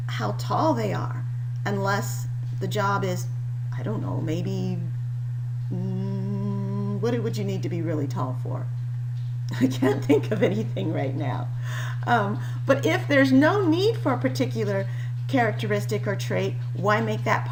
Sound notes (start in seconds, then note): 9.5 laughing